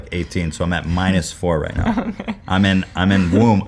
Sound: laughs

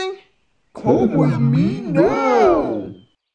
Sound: dark voice

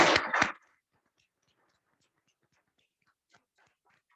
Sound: audience clapping

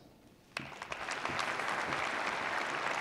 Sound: applause

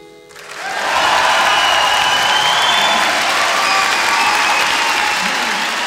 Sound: audience applauds, cheers

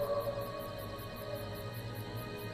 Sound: howling in the distance

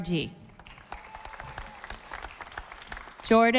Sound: audience applauding

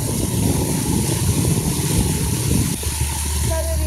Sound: wind on the water

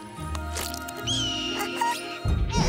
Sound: squawking

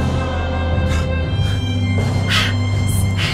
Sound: soft music; Daniel exhaling; Susan exhaling

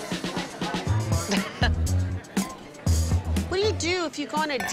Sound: chuckles

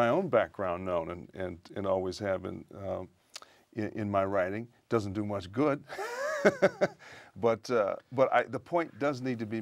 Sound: laughter

